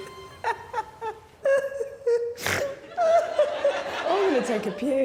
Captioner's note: laughing